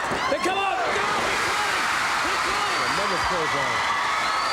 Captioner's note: audience roaring; speaks faintly